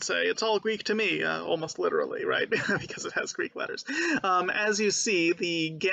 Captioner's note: laughing